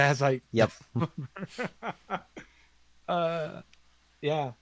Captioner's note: laughs